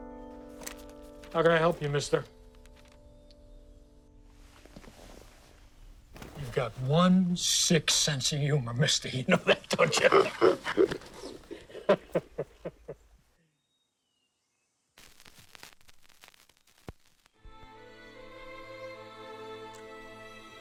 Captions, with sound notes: - HOW CAN I HELP YOU, MISTER? YOU'VE GOT ONE SICK SENSE OF HUMOR, MISTER. YOU KNOW THAT, DON'T YOU? [laughs] [soft classical music]